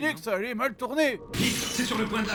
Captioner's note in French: explosion